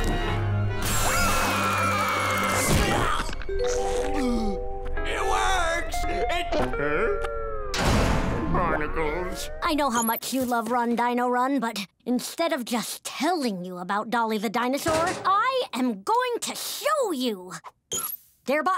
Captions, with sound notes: [screaming] [groaning] It works! It- Huh? [door slamming] Barnacles. I know how much you love Run, Dino, Run , but instead of just telling you about Dolly the dinosaur, I am going to show you.